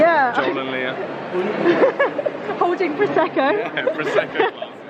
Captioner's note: laugh